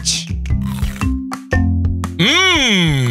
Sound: Ed chomps

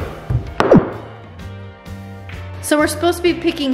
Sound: thud

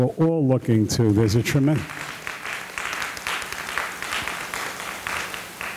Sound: audience applauding

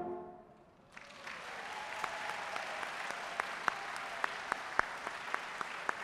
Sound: audience cheering and applauding

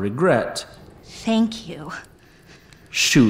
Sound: sighs

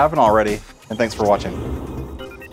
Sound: device beeping; air whooshing

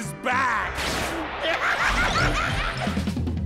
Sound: laughing

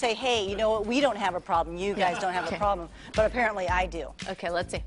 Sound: laughing

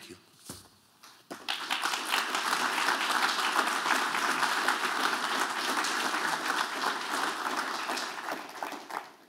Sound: applause

